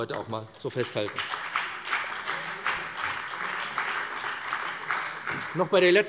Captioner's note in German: Beifall bei dem BÜNDNIS 90/DIE GRÜNEN und der CDU